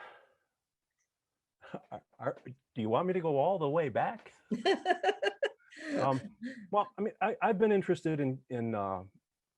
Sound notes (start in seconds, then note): 4.5 laughter